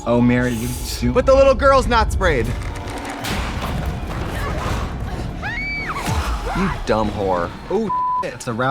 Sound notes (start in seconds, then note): 2.6 crashing; 3.7 zombie grunts; 5.4 girl screaming; 7.8 beeping